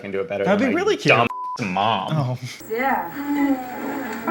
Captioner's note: beep